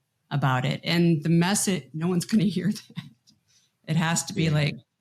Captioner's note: laughs